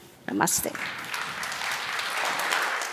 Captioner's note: applause